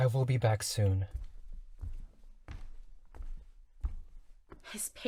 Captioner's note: footsteps